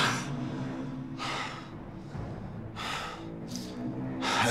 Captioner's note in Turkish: Nefes sesi